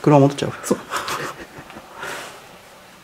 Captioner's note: laughs